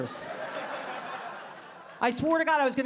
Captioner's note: audience laughing